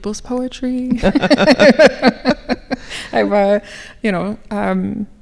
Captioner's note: laughing